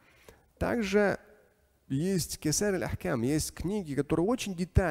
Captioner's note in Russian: Говорит на арабском; говорит на арабском